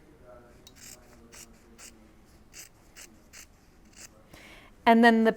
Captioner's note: scissors snipping